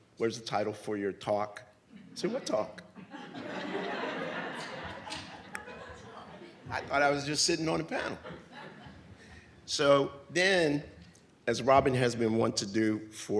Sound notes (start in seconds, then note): 2.8 audience laughs